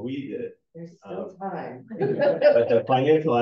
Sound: chuckling

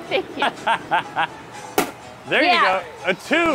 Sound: laughing; balloon popping

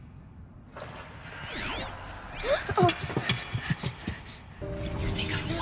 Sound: electronic buzzing

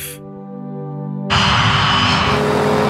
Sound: plane engine roaring; boat engine buzzing

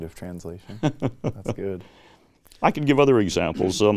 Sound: laughs

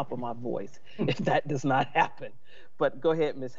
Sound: laughs

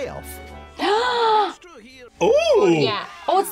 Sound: gasps

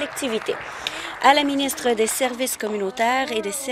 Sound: applause

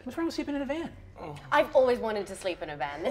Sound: groans

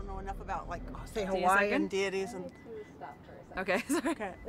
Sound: camera beeping

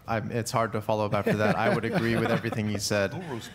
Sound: panel laughs

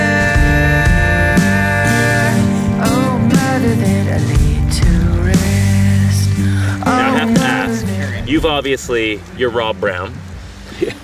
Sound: laughing

